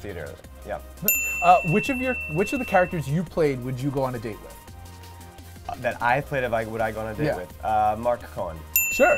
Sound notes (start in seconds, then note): 1.0 dinging; 8.7 dinging